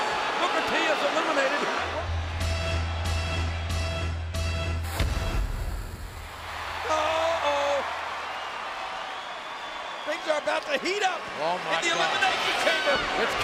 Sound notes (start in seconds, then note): 6.4 applause